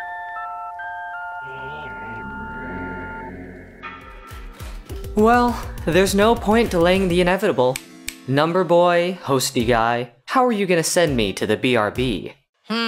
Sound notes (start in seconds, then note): 8.0 snaps fingers